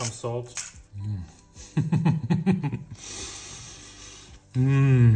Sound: chuckles

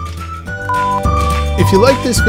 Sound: beep

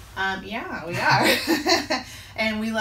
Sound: laughing

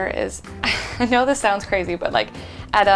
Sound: laughs

